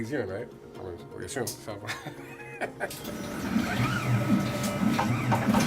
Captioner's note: laughing